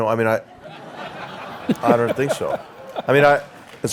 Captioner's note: laugh; applause